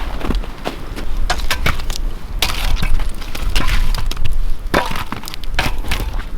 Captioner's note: metal scraping and rattling